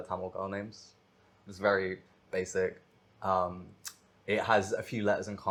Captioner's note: she clicks tongue